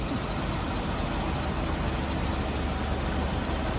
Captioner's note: engine running